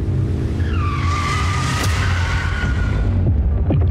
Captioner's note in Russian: резкое торможение